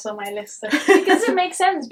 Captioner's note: chuckles